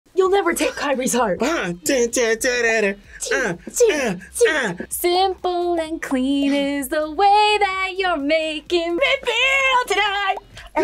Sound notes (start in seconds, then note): 1.9 hums video game music; 3.2 both make fight noises